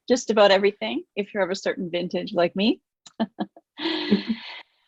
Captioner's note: laughs